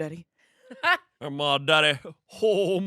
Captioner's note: laughs